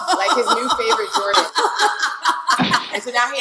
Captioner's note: laughing